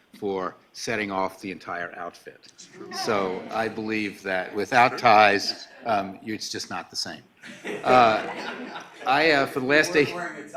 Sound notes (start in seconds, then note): 7.4 laughing